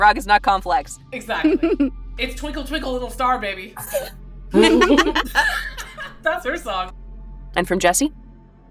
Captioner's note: laughs